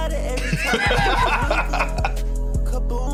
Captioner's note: both laughing